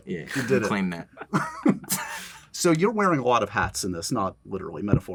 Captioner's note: laughs